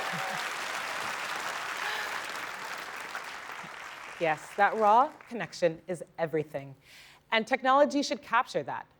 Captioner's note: applause